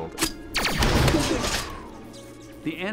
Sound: explosion

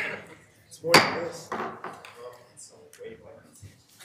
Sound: gavel thumps

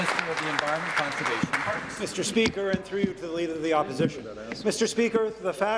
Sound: applause

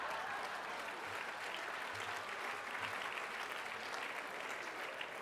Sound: applause

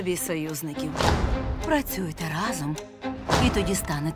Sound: stomping

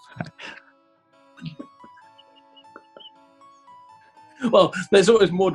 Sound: laughing; giggling

